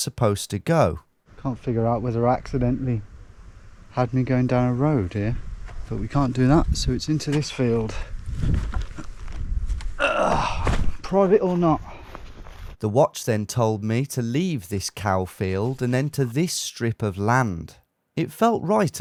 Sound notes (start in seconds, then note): 10.0 grunts